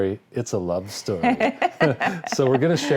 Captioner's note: laughing